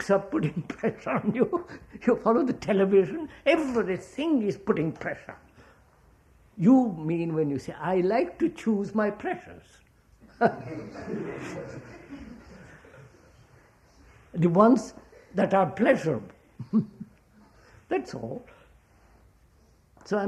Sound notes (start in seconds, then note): 13.4 laughter